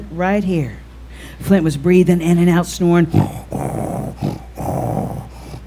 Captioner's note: snoring